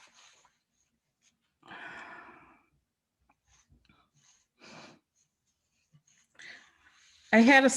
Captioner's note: silence